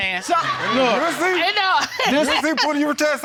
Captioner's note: audience laughing